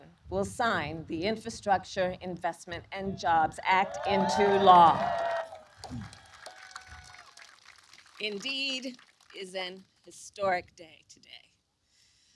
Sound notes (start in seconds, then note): 5.5 applause